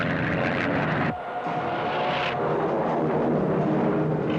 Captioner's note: engines revving